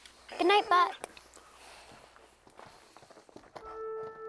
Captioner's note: Buck whining